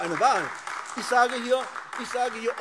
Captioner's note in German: Beifall AfD